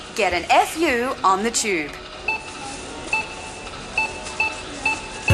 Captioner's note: beeping